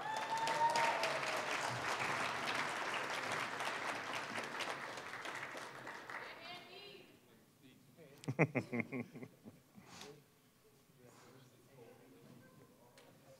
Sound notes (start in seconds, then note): 0.0 applause, cheering; 3.3 applause; 8.2 chuckling